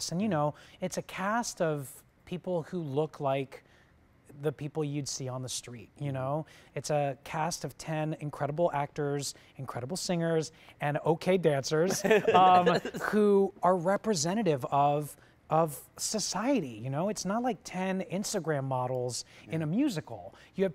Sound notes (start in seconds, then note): 11.9 laughter